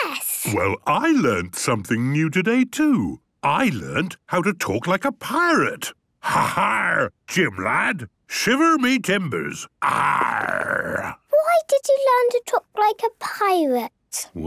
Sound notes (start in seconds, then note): 6.1 menacing voice; 9.8 he growls